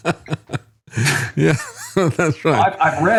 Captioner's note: laughing